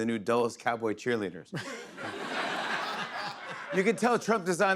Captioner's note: laughter